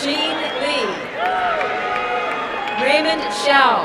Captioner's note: crowd cheering and applauding